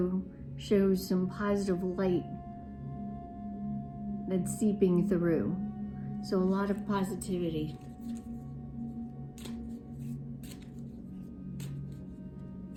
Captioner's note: cards shuffling